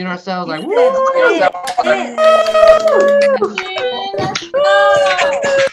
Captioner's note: panel members applauding